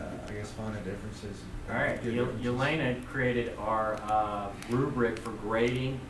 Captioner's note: voiceover